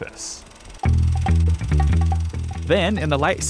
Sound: film reel clicks

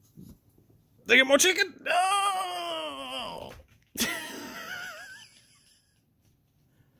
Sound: laughs

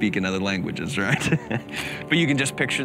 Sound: laughing

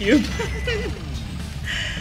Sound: giggles

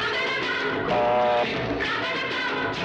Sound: phone rings

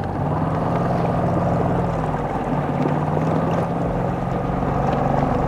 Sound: motorboat rumbling

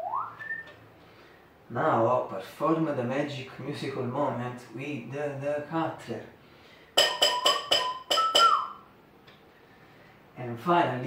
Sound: whistle

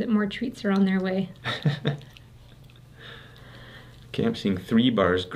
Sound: Math Dad chuckles

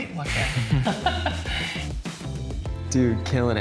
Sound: laughter

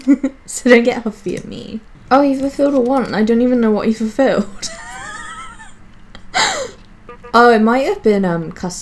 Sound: laughs

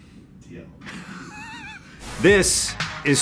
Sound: snickering

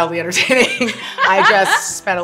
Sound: laughter

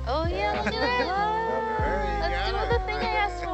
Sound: mellow music continues; all oohing and ahhing

